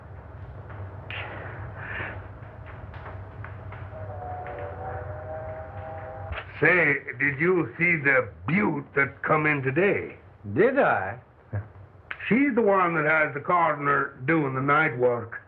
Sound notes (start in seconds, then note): 3.7 train whistle